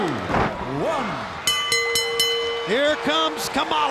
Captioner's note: body slamming; match bell rings